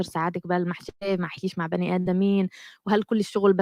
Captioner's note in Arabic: لغة أجنبية